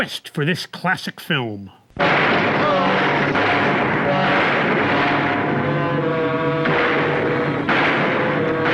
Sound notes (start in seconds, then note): 2.0 guns firing; 4.2 dramatic music